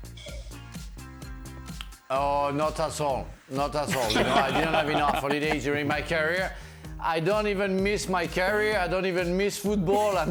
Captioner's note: laughter